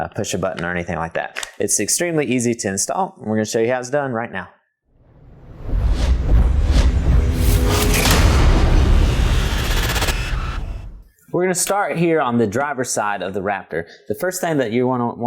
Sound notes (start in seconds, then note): 5.0 sound effect